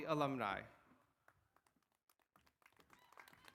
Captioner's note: applause